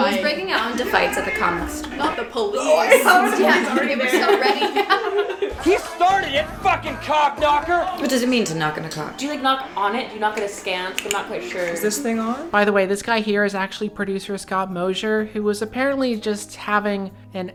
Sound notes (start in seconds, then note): 2.8 laughter